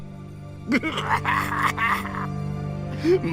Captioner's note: evil triumphant laugh